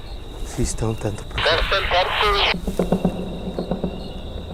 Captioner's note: strange voice on the radio